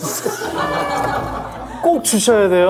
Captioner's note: groan... / Groan... pt. 2